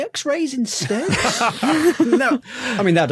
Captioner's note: others laughing